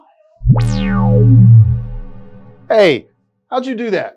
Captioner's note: electronic tone